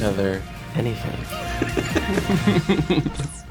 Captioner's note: laughter